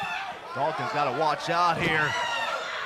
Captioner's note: crowd chatter